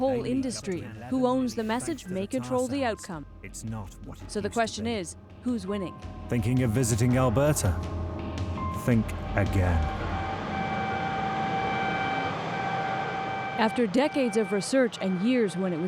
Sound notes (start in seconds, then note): 10.4 machinery drone